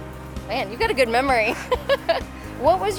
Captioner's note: laughs